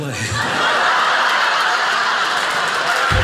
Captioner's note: audience laughing